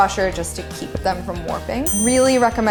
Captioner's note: ding